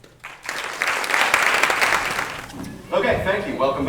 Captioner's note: applause